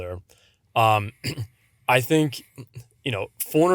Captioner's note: clears throat